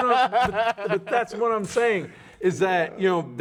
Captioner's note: laughing